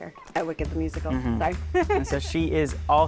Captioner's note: laughing